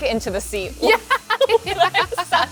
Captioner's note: laughs